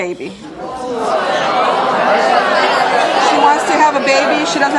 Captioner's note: audience hollering